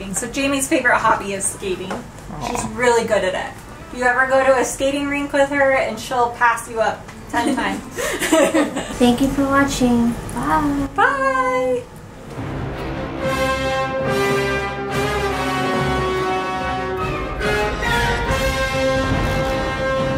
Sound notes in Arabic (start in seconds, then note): 8.0 يضحك; 11.9 موسيقى ختامية